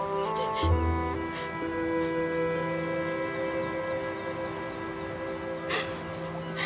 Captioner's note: sobs